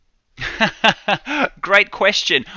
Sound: laughing

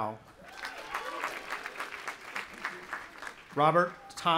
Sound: audience applauding and cheering

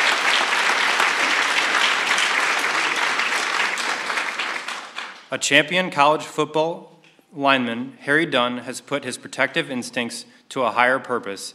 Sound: applause

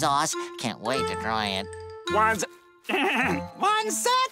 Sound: clearing throat

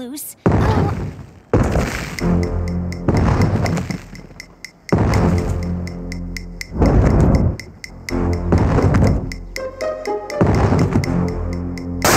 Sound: heavy footsteps advancing

